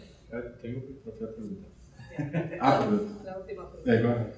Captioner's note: speaking in Spanish